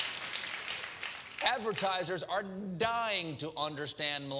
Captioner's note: applause